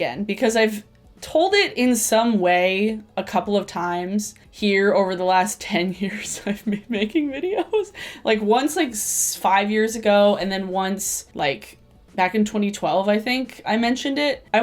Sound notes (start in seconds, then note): 6.1 laughs